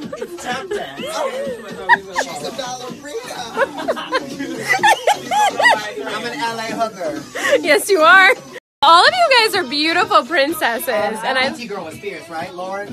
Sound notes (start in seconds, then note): 2.0 laughs